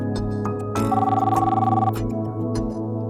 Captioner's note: phone ringing